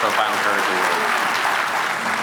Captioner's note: applause